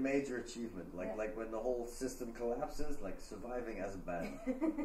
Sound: laughter

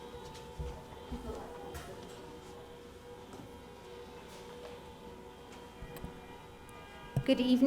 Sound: horns blowing

